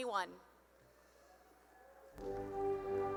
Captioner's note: cheering